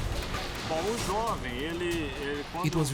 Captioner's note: speaking foreign language